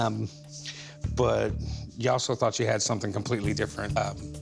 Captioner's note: none